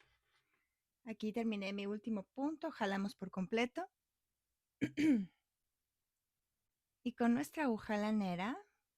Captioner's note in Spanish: carraspeo